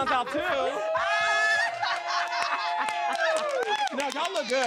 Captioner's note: both laugh; laughs; audience cheering